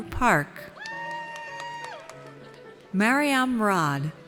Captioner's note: audience cheers